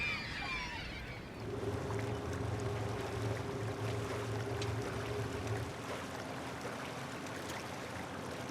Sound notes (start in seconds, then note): 1.2 engines hum